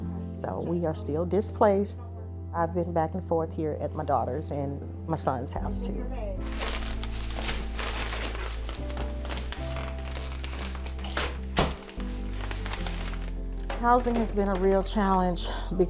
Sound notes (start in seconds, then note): 6.4 packages rustling; 11.1 door thudding